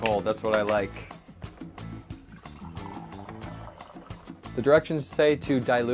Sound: liquid pouring

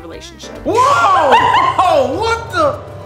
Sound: laughs

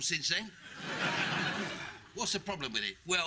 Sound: audience laughing

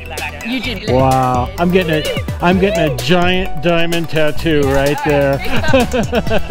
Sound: laughing

